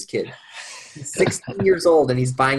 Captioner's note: men laughing